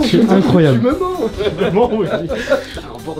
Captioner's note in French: rires